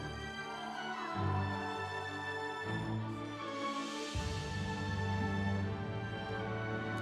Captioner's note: instrumental music; audience cheering